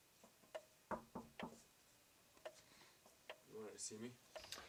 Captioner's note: knocking